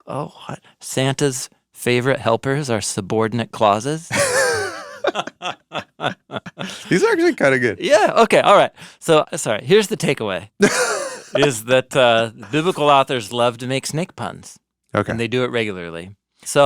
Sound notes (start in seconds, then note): 4.1 laugh